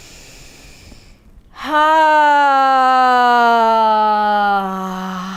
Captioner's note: inhaling and sighing